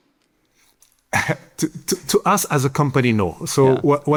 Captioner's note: chuckles